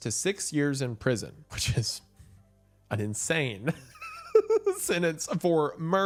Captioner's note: laughing